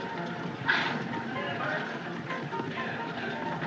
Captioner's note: horse Blusters